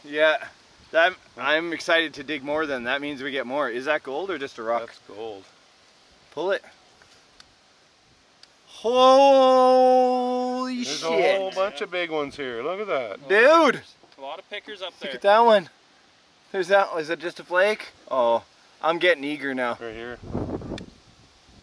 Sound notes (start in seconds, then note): 8.6 exclaims